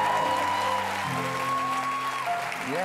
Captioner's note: cheers and applause